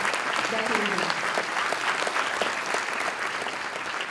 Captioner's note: applause